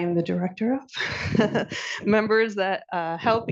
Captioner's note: laughing